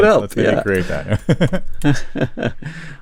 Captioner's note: laughs